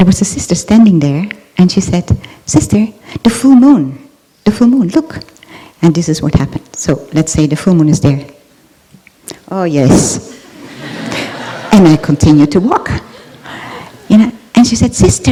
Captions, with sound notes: and there was a sister standing there, and she said, 'Sister, the full moon! The full moon! Look!.' And this is what happened. So, let's say the full moon is there. Oh, yes! (Laughter) And we continue to walk!